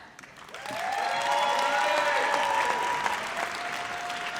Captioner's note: audience cheers